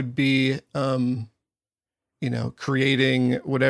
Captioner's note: none